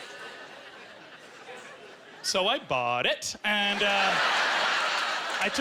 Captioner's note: laughing